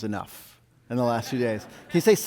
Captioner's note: audience laughs